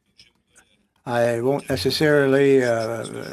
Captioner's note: speaking French